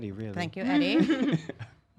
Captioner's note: laughs